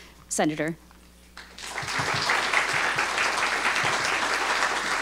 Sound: audience applauding

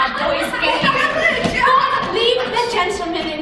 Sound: George, Jack and Michael laughing

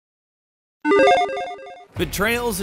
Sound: logo beeping

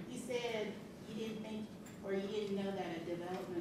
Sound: voiceover

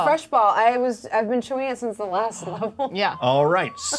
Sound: laughs

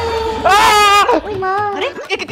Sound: shouts

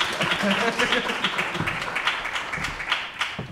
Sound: laughs

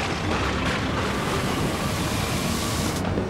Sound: waves splashing

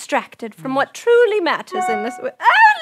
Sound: tablet dings

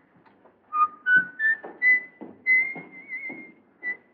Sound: whistles

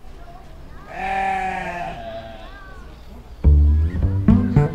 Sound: sheep bleating; pizzicato string music

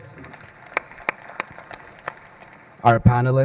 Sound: crowd applauding

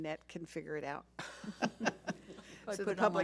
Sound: laughing

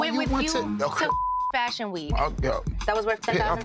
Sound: beep

